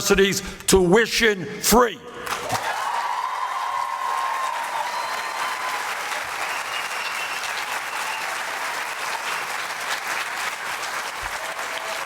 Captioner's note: applause